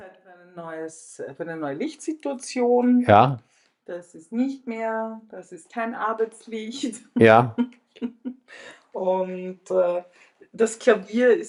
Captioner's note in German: gelächter